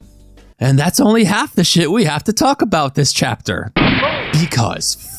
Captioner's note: gunshot